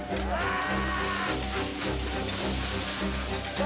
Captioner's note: laughing; screaming